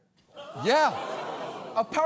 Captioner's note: audience clamoring